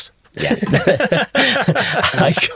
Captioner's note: both laughing